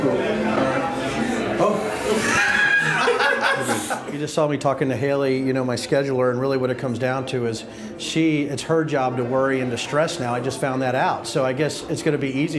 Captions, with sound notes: - Oh. (laughing) You just saw me talking to Haley, my scheduler, and really what it comes down to is she, it's her job to worry and to stress now, I just found that out, so I guess it's gonna be